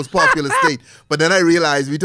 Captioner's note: laughs